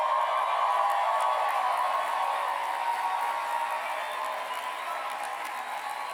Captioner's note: cheers and applause